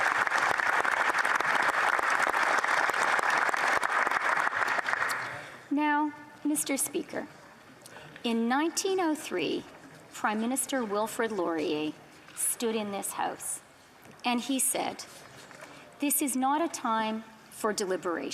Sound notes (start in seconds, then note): 0.0 applause